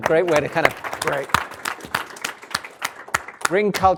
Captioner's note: applause